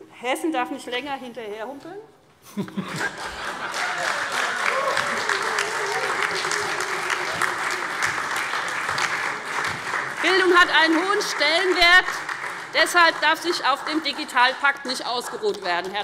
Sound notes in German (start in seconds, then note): 2.5 Heiterkeit und Beifall SPD